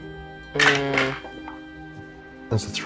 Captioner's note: dice rattling